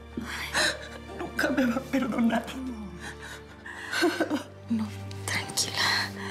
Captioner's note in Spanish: Sollozos